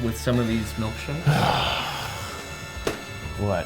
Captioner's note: sighs